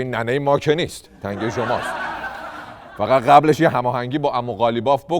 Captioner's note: laughter